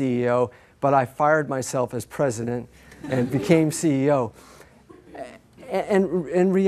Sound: laughter

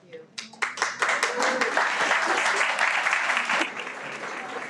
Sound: everyone applauds

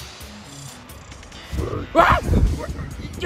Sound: weird Metal Sonic sound

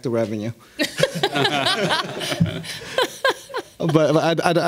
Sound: audience laughing

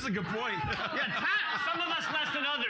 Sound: loudly laughing

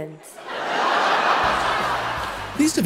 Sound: audience laughs

